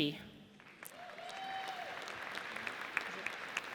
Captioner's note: audience cheers